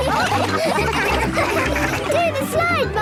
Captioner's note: all laughing